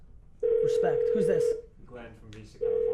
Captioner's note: phone ringing